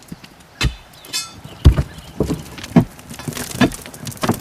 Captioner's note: rocks falling